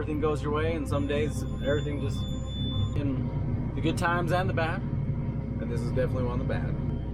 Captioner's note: loud beep